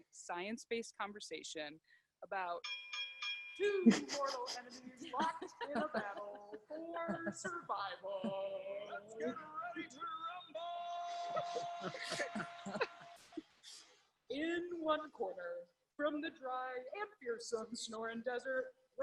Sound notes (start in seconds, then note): 2.6 bell dinging; 11.0 women giggling